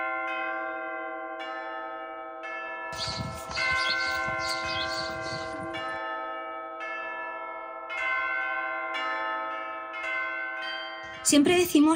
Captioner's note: bells